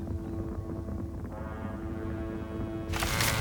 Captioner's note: thundering hooves